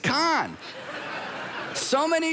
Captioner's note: congregation laughs